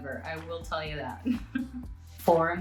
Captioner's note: giggles